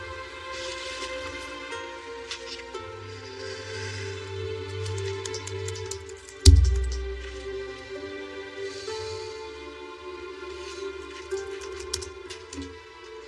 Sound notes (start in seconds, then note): 2.6 sighshs; 4.3 laptop keysys tapping